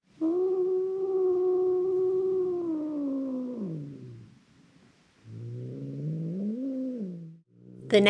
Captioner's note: growling